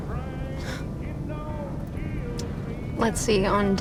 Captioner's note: Rebecca scoffs